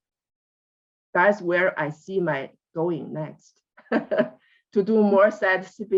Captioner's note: laughs